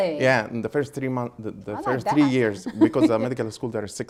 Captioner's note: laughing